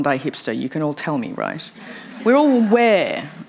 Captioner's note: laughter